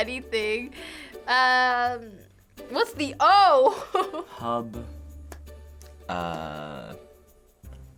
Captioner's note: chuckles